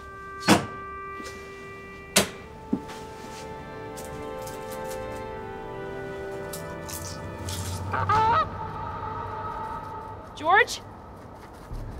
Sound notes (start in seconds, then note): 0.3 slow paced music; 8.4 goose honking